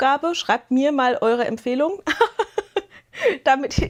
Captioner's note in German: Gelächter